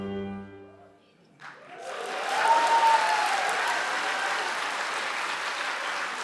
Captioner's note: audience applauding